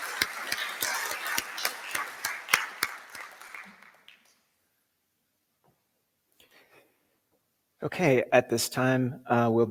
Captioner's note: applause